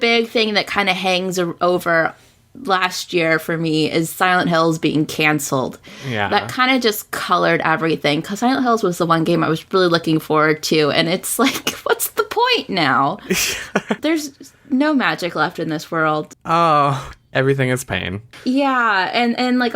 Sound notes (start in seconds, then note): 13.2 laughs